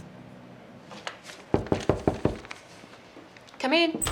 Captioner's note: hand knocking